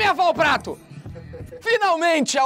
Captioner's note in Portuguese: risadas